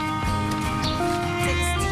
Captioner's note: birds chirping